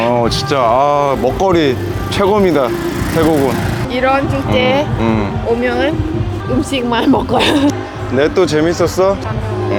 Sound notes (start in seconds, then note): 7.2 laughing